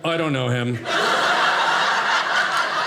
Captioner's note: audience laughing